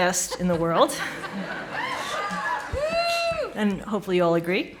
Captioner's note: audience laughing